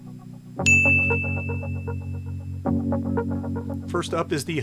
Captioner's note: bell ringing